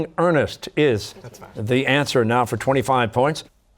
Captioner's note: whispering